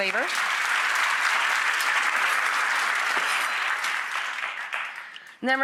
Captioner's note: audience applause